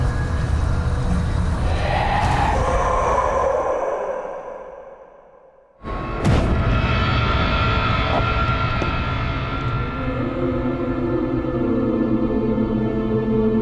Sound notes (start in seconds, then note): 1.6 haunting cry; 2.2 dark music; 10.8 hollow music